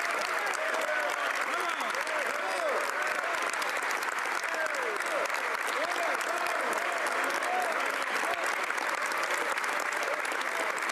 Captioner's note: some Applause